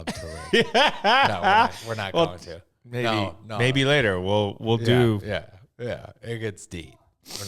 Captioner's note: laughing